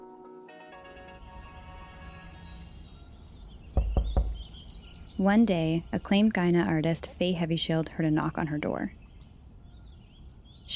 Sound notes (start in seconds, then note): 3.5 birds tweeting and knocking on door